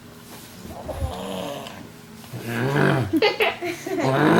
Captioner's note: grunting